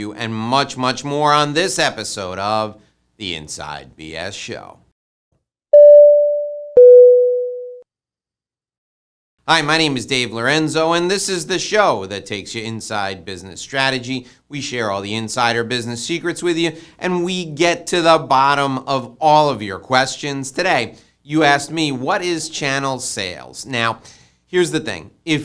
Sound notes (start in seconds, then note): 5.8 doorbell rings